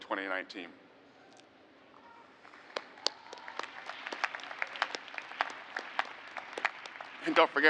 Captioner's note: applause